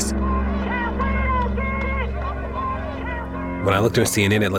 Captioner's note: police sirens; protesters chanting